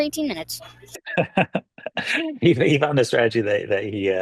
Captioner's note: chuckles